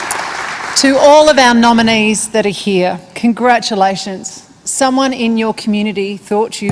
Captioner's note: applause